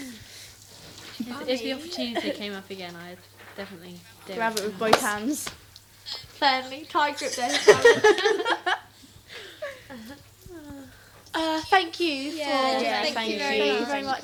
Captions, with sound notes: If they opportunity came up again, I'd definitely do it. Grab it with both hands. [all laugh] Thank you. Yeah, thank you very much.